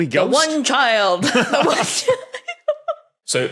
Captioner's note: guessers laughing